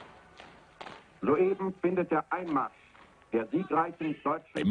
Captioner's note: German spoken audio